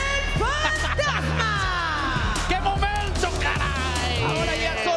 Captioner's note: laugh